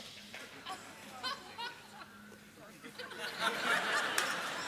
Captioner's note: laughter